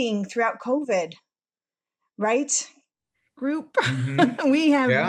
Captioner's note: laughter